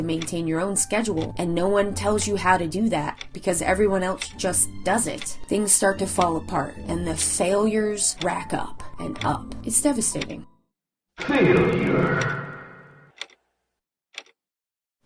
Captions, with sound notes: to maintain your own schedule and no one tells you how to do that because everyone else just does it, things start to fall apart and the failures rack up and up. It's devastating - Failure. (clock ticking)